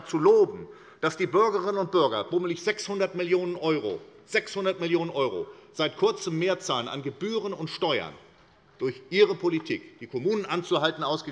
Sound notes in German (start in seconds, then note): none